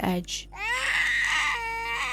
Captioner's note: baby cries